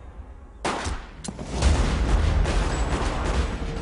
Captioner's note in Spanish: Disparos